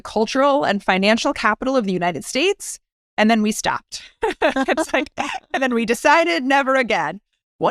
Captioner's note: laugh